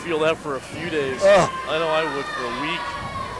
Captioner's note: grunts sympathetically